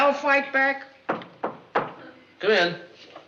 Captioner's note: knock on door